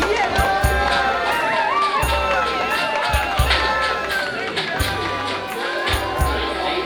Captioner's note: crowd cheers